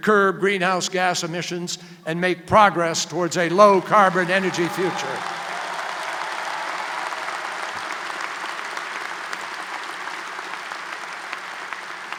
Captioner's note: applause